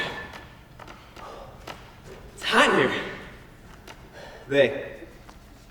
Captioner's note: sighs